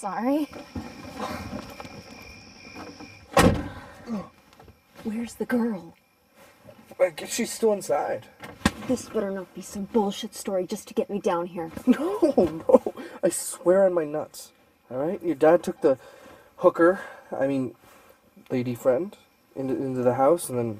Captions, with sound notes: I'm so sorry. [Crickets chirping] [Car door slams] [Grunts] Where's the girl? [Rustling] - I guess she is still inside. [Thud] - This better be not some bullshit story just to get me down here. - No, no. I swear on my nuts. All right? Your dad took the hooker... I mean, lady friend into the house